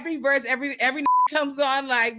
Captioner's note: beep